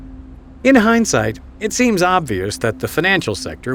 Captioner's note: voiceover